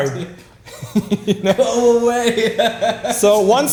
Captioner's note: laughing